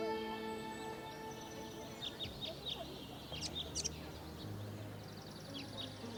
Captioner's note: tranquil music; birds tweeting